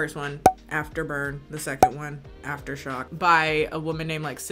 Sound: corks popping

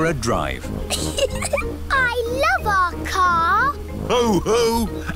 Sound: giggling

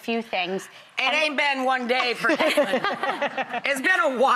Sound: laughing

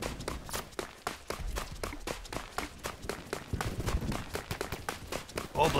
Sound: none

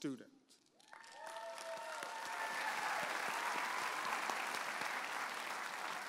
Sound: audience applauding and cheering

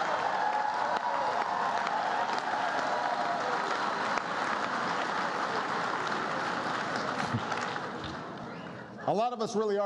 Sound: laughter and applause

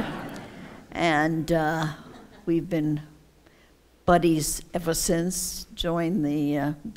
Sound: laughter

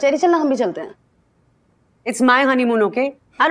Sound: mouthing

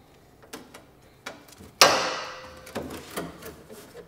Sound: metal sound

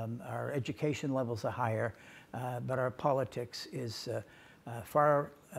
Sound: none

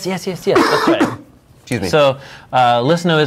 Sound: coughing

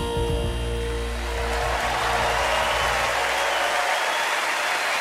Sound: crowd cheering

